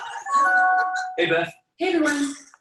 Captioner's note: electronic chiming